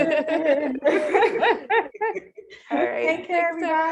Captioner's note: all laughing